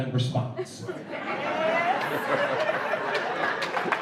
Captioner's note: applause